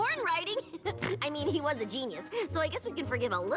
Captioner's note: snigger